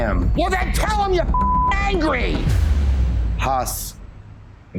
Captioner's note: beep